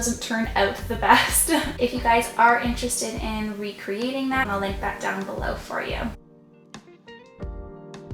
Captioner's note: laughing